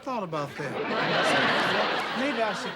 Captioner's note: laughter